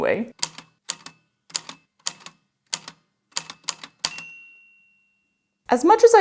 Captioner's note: A typewriter clicks away, then dings